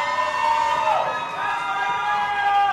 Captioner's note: audience applauding and cheering